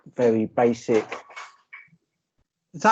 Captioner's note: crashing Noises In Background